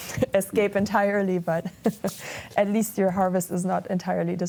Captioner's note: chuckles